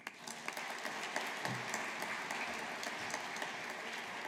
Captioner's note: audience applauding